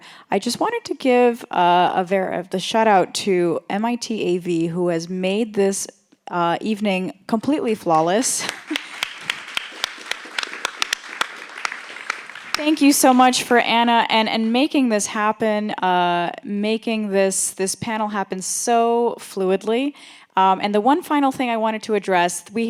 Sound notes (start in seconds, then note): 8.4 applause